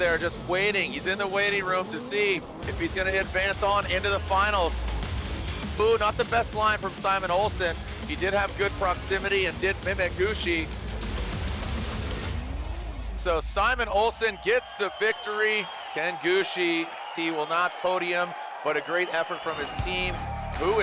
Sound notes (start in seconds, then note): 10.8 engine roaring; 10.8 upbeat music